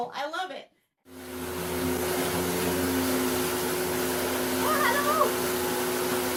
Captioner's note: vacuum sounds